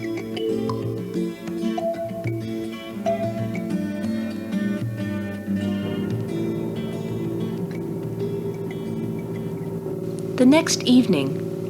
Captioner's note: water sounds